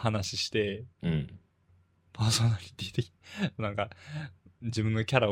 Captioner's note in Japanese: 息をのむ音